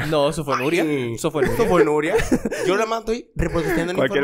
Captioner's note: laughs